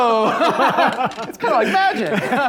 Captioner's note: laughter